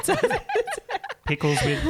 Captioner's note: laughing together